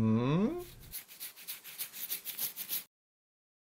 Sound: scratching

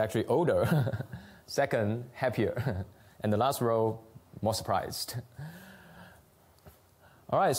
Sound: laughs

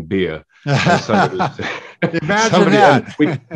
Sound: laughing

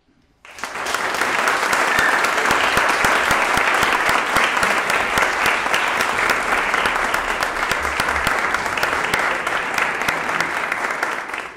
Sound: applause

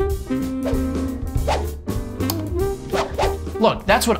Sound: gentle whoosh

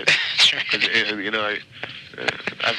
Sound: laughing

